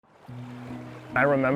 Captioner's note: water rushing